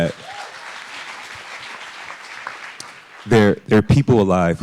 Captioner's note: audience applauding